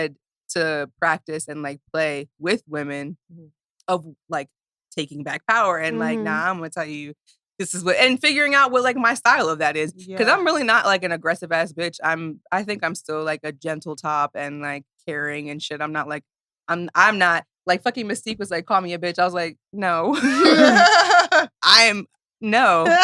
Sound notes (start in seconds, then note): 20.1 laughs